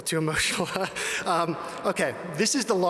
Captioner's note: chuckles